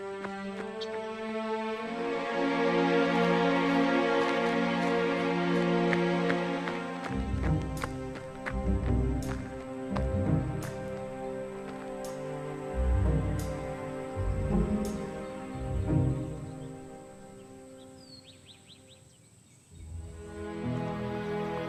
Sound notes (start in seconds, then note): 0.1 suspenseful music; 18.2 birds chirping